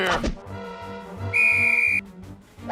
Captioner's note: blows whistle